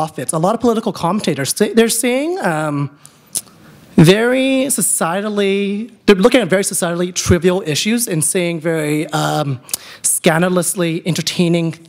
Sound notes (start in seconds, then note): none